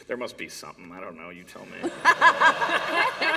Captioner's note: laughter